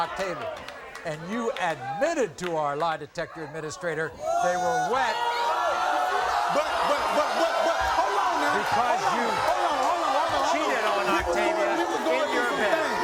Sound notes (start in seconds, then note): 5.5 audience gasping